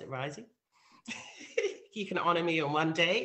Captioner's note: chuckles